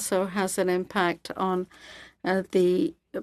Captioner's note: speaking French